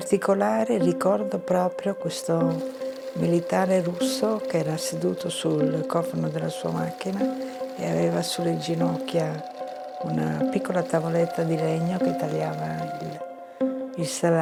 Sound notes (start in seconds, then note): 4.0 continues speaking in foreign language